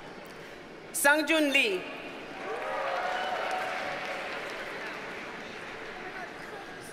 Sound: audience cheers and applauds

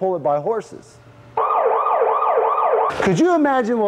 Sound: siren wailing

